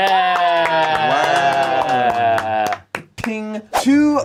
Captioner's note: group cheers; claps; bell dings